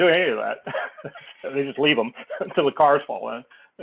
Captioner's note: laugh